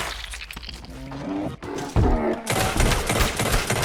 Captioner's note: knife squelches; gunshots boom